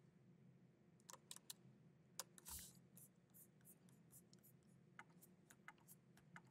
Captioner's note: keyboard clacking continues